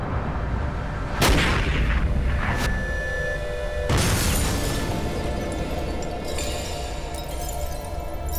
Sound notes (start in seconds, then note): 1.2 gunshot; 4.0 glass shatters